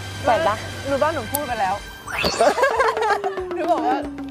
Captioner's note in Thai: เสียงหัวเราะ